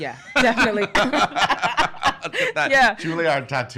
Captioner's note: laughing